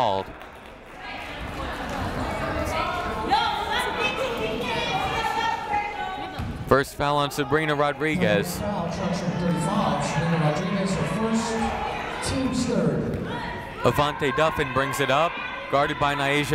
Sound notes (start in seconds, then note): 2.0 yelling